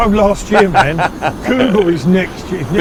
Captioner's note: laughs